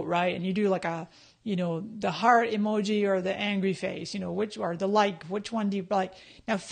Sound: none

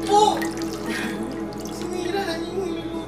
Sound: Divina chuckles

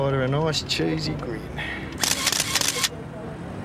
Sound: camera clicks

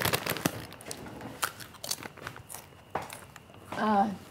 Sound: bag rustling and chips crunching

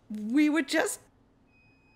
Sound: none

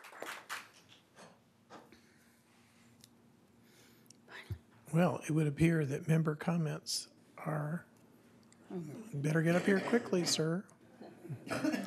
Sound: applause

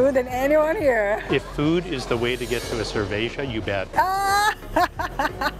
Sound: in Portuguese; laughs

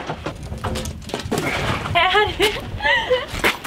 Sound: giggles

